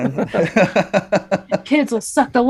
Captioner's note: laughing